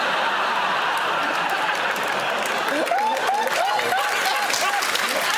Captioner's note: laughter; cheers and applause